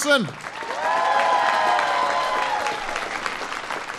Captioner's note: applause